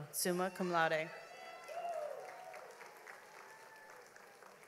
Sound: audience applauds

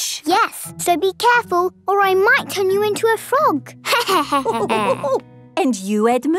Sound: laughter

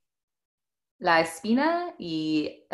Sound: speaking in foreign language

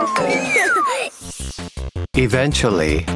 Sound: giggling

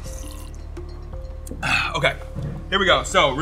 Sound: slurps the milk

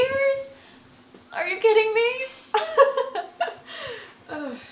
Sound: laughs

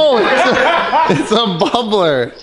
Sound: laughs

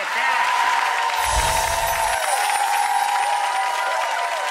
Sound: audience applause

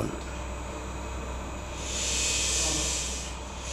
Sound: loud machine whine

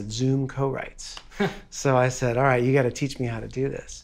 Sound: laughing

